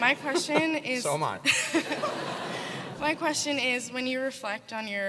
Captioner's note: laugh